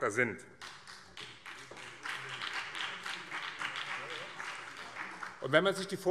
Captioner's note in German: Beifall BÜNDNIS 90/DIE GRÜNEN und vereinzelt CDU